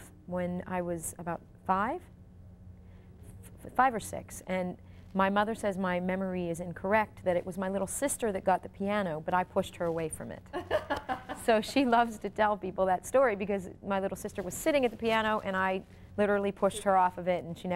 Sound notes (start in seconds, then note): 10.5 interviewer laughs